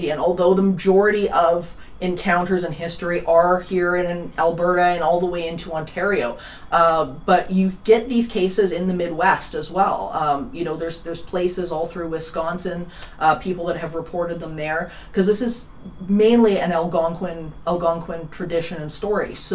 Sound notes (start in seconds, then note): none